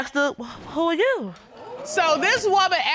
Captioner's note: audience exclaiming